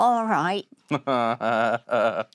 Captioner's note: laughing